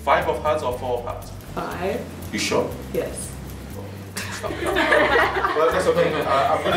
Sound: laughter

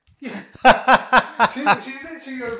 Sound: laughter

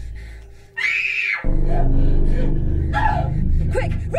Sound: grunts; screams; gasps; panting

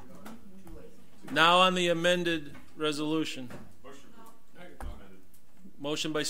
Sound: overlapping chattering

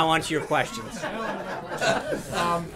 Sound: laughter

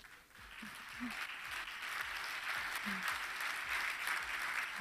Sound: audience clapping

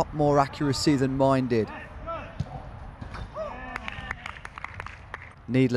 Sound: hands clapping

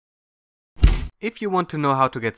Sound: bang

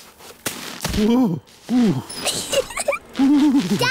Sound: groans; giggles

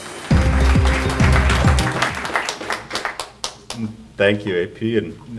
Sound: audience applauding

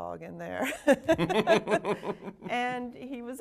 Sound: both laughing

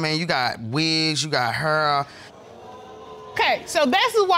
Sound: audience exclaims

